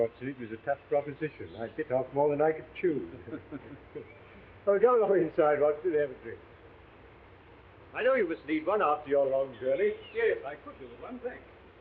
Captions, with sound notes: it was a tough proposition. I bit off more than I could chew. (both chuckling) Well, go along inside, Watson, and have a drink. I know you must need one after your long journey. - Yes, I could use one, thanks.